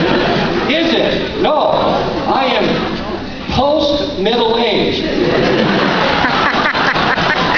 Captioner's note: laughter